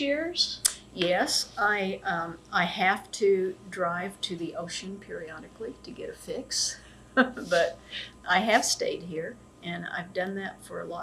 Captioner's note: laughs